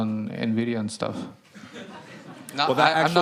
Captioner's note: laughter